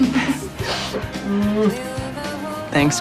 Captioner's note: laughing